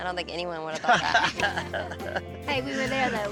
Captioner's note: laughs